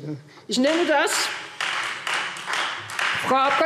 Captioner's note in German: Beifall Freie Demokraten